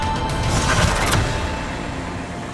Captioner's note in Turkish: Efekt sesi